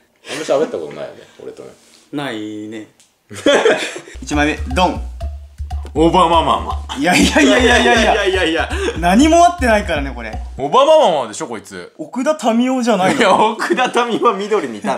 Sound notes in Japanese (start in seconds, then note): 3.3 笑い声